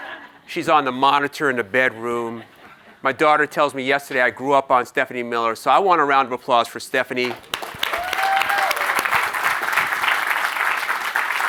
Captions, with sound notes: She's on the monitor in the bedroom. My daughter tells me yesterday, "I grew up on Stephanie Miller." So I want a round of applause for Stephanie. (audience applauds)